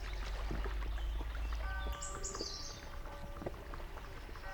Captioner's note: bell ringing